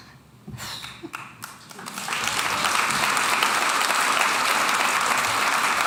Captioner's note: audience applauding